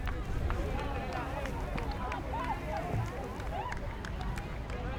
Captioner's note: fans clapping